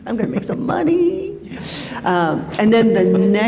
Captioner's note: laughter